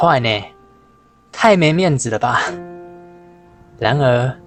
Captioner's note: laughing